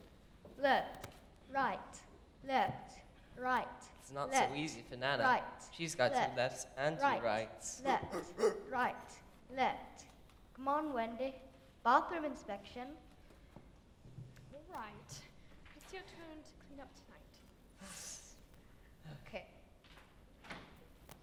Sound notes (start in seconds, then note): 8.0 Nana barks